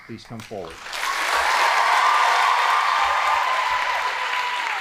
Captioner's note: audience applauding